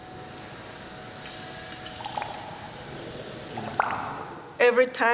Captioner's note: dripping